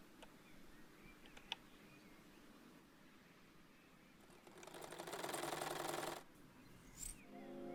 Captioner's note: sewing machine sounds